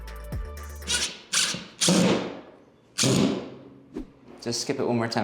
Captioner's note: drill whirring